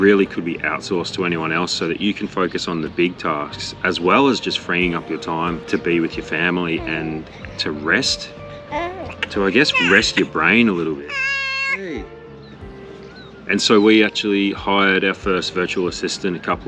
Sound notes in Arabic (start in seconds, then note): 9.3 تبكي